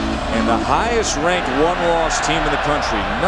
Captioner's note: voiceover